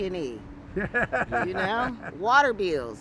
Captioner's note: laughs